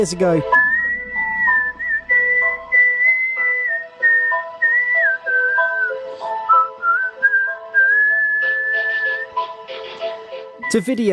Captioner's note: whistling